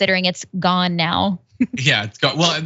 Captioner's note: laugh